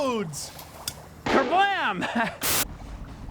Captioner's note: chuckles